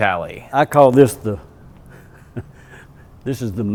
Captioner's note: starts Talking. He has unique hyper-intelligent Southern Accent; chuckles